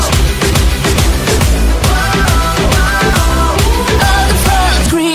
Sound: ooh, ooh

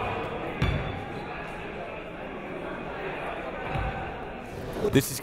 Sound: crowd talking

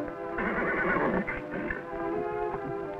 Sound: neighs

